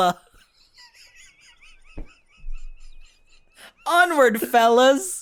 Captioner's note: high-pitched giggles